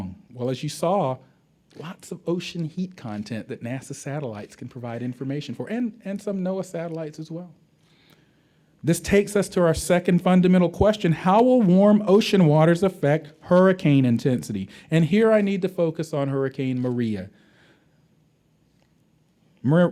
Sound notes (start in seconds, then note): none